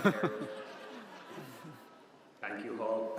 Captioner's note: audience laughs